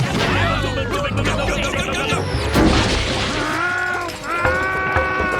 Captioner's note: all shouting